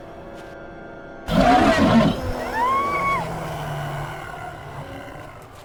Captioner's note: creature roaring